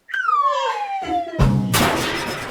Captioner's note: laughs